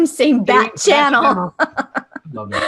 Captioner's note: laughter